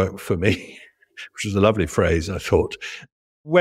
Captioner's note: laugh